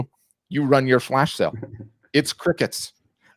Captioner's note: laughing